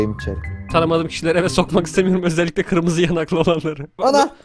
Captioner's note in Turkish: Gülerek